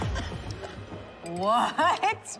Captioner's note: laughs